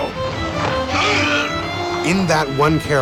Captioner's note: moaning in pain